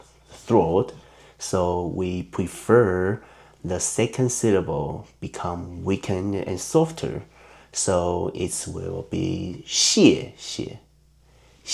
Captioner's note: in Mandarin